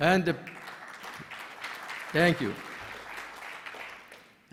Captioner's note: applause